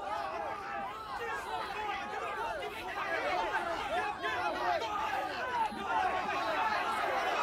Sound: cheering

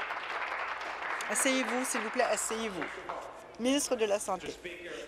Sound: applause

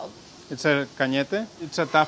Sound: speaking in foreign language

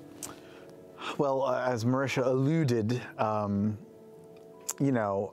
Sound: none

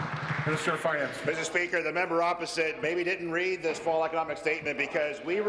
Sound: applause

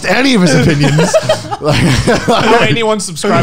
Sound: laughing loudly

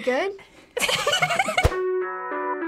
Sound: sudden laughter; melancholic music

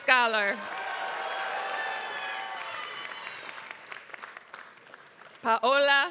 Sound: applause

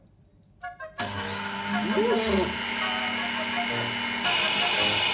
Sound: playful music; mixer whirs

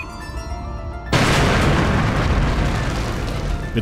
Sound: ba-boom

